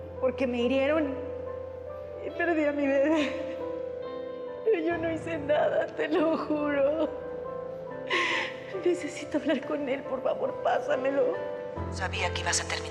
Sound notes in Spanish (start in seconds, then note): 3.8 llanto; 8.0 sollozos